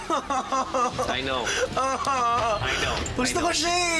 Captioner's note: tense music playing; laughs